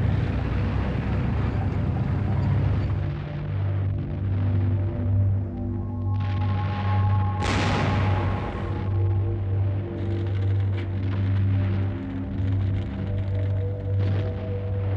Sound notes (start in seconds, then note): 7.4 artillery firing